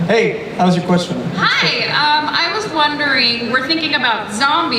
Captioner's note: voiceover